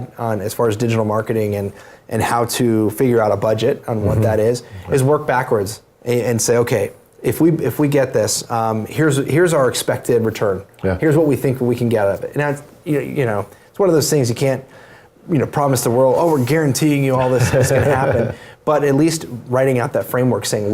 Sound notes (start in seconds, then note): 17.2 laugh